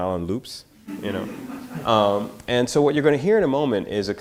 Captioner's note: audience laughter